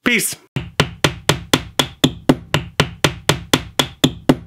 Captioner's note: nail hammering